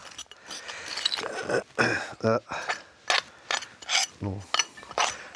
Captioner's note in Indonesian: suara menggali